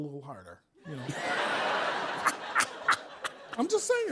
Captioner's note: laughter